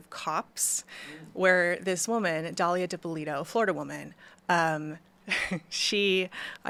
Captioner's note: chuckles